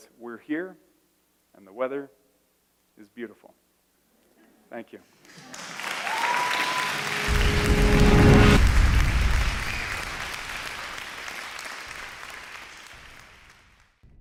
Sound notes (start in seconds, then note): 5.3 applause; 6.8 intense organ